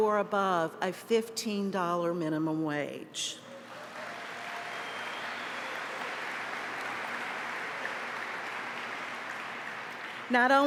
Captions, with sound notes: WHOSE EMPLOYED BY THE UNITARIAN UNIVERSALIST ASSOCIATION MAKES AT OR ABOVE A $15 MINIMUM WAGE. [APPLAUSE]